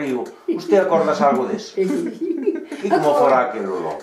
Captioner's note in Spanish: risas